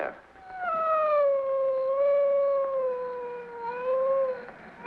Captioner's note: dog howling